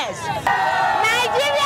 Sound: crowd cheering

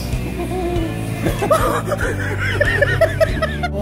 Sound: laughing

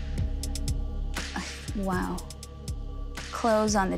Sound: gasps

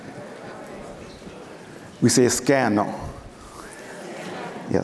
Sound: foreign speaking

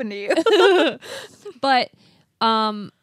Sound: both laughing

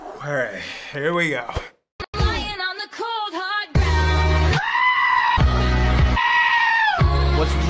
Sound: screaming

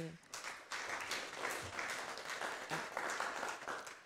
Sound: audience applause

